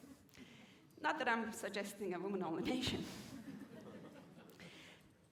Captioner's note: laughter